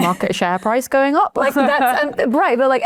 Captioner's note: chuckles